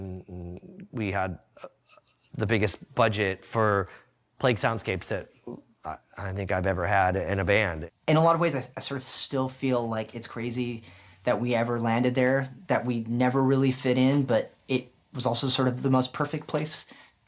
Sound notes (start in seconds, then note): none